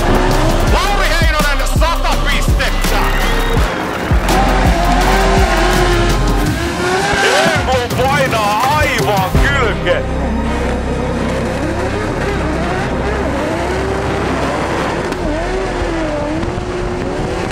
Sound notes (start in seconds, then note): 0.0 ddrrrrrr; 3.1 tens of thousands of people cheering; 4.5 rrrrraa; 6.6 wraaaa